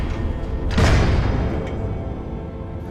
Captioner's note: klang!